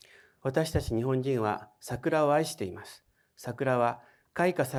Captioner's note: speaking in foreign language